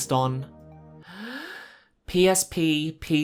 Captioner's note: inhales